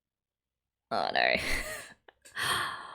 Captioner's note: laughs